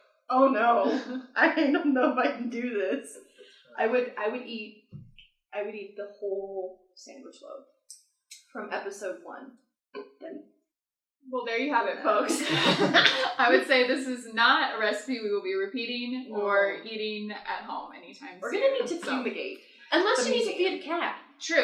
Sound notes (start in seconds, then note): 12.2 laughter